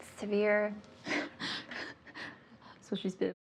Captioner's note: both laughing